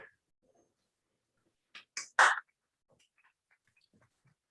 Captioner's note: applause